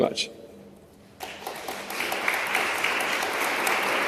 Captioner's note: applause